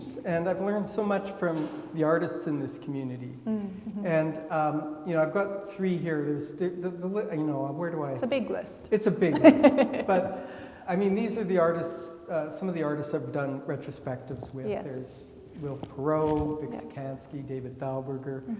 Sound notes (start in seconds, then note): 9.2 laughing